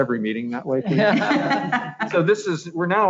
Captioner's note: laughs